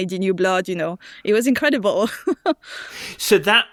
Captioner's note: laughs